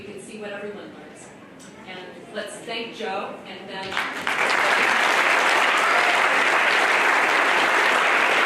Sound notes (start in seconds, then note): 3.8 applause